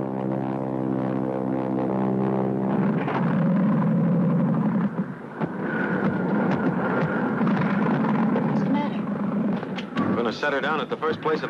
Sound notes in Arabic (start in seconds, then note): 3.0 صوت محرك الطائرة يتقطع